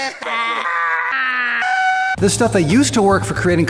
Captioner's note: screaming